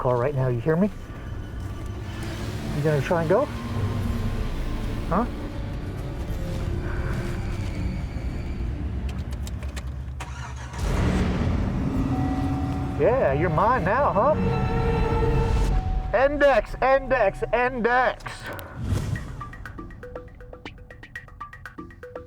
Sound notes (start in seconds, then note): 10.1 truck starts; 19.2 percussive music